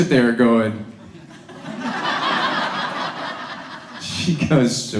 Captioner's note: audience laughs